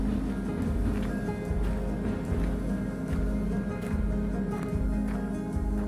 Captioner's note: sound of a train passing